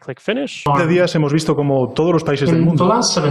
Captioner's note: Spanish language